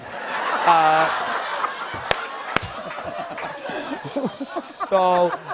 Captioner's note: laughter